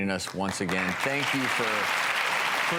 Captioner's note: audience applauds